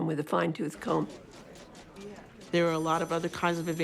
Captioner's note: typewriter, telephone ringing